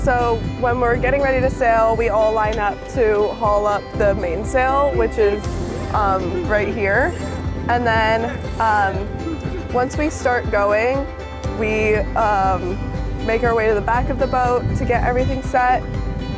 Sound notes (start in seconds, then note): 7.3 students call and respond while hauling main sail